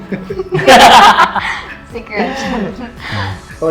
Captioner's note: laughs